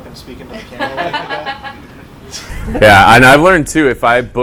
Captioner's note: laughter